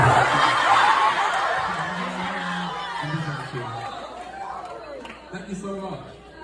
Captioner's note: audience laughs